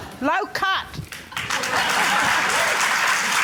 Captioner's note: applause